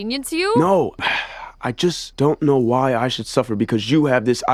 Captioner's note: sigh